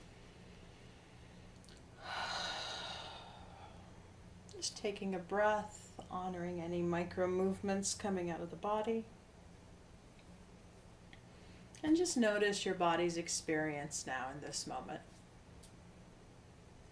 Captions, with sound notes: (exhales) Just taking a breath, honoring any micro movements coming out of the body. And just notice your body's experience now in this moment.